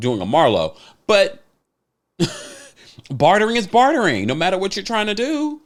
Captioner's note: chuckles